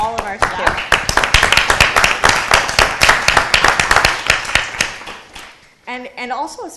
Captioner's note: applause